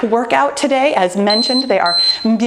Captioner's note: timer beeping